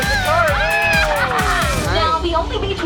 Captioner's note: family cheers